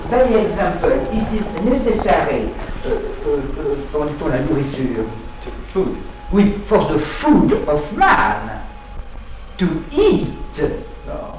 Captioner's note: animals